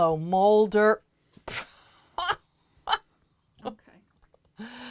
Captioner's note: chuckling